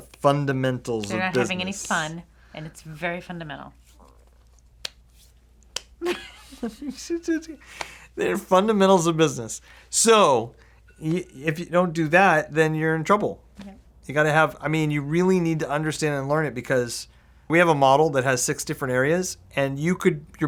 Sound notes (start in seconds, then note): 6.0 both chuckle